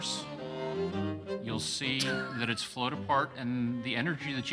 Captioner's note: laughs